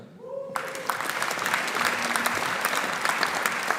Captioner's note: audience applauding